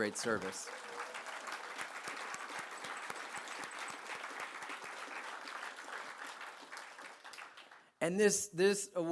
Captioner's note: applause